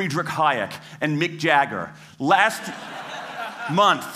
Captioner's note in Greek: Γέλια